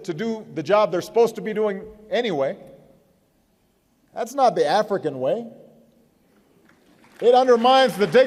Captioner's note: applause